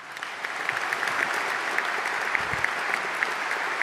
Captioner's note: applause